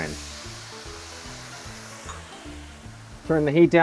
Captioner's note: sizzling